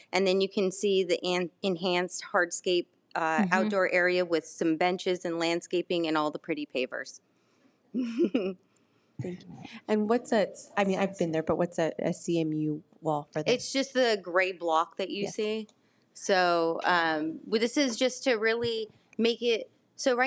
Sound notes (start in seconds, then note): 8.0 laughs